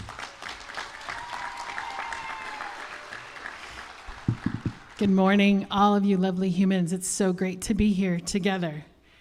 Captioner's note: applause